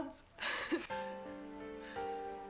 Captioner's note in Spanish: risas; música dramática